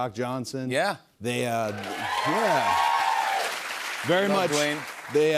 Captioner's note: cheers and applause